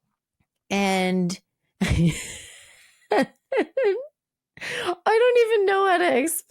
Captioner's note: laughing